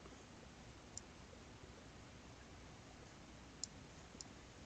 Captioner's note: mouse clicking